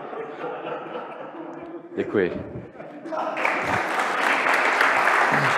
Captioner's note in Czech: Potlesk